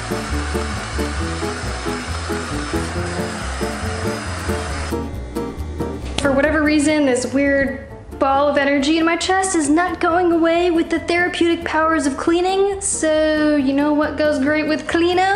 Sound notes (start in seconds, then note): none